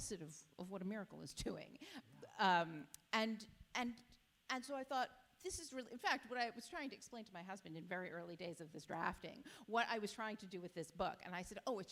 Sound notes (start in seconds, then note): none